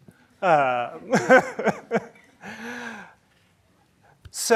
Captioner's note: laughs